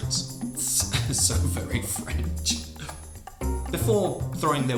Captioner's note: gasps